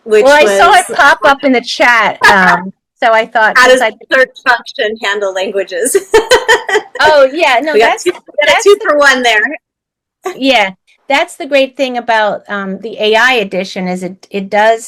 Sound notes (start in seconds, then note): 6.0 laughs